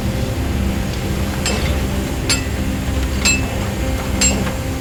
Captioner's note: hammering